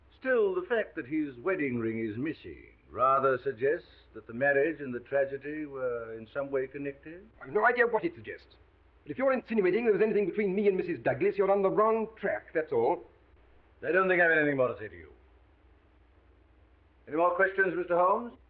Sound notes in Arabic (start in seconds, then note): none